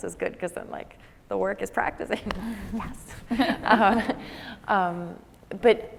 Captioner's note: laughs